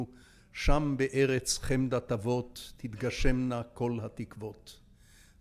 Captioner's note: speaking in foreign language